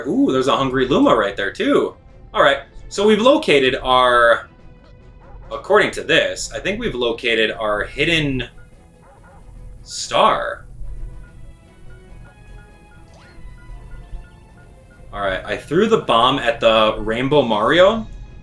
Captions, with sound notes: Ooh! There's a hungry Luma right there too. All right. So we've located our, according to this, I think we've located our hidden star. (bomb ticking) All right, I threw the bomb at the rainbow Mario,